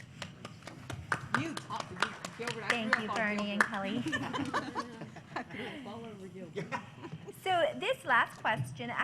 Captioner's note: applause; laughter